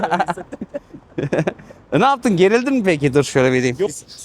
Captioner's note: laughs